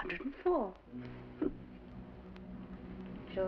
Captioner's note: chuckles